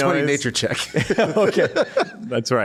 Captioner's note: laughter